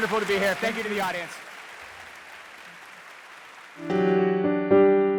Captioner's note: audience applauding